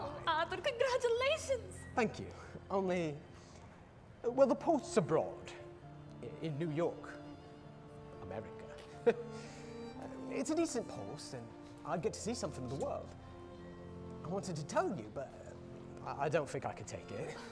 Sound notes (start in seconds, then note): 8.8 chuckles